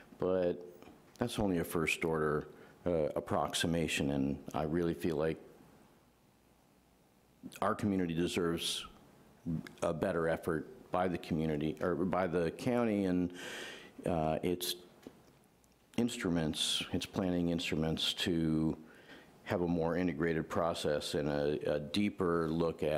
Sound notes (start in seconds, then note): none